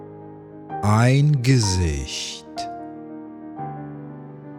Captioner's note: german